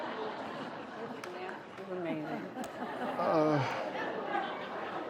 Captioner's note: light laughter